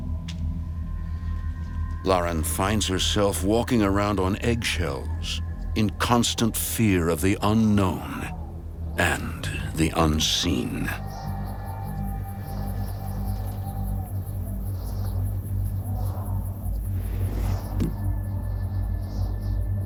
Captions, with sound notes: Lauren finds herself walking around on eggshells in constant fear of the unknown and the unseen. (Wind whistling)